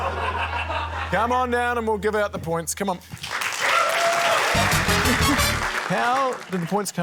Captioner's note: laughter; cheering, applause